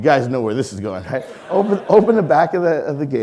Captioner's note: audience laughing